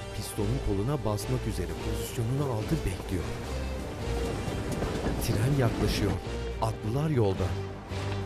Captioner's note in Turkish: Müzik - Gerilim; Tren sesi